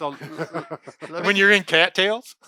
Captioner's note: laughing